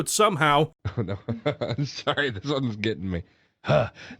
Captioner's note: laughing